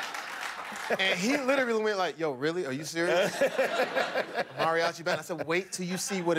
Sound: laughter

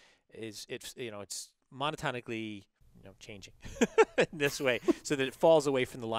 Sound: laugh

